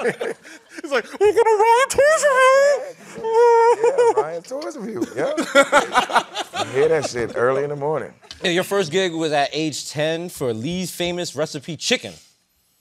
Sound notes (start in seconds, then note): 5.0 laughter